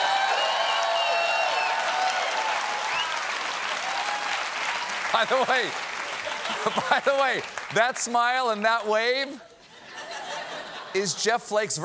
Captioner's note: cheers and applause